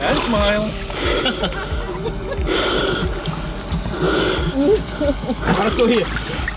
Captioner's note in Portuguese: respirando fundo